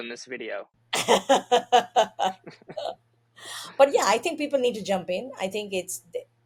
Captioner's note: laughs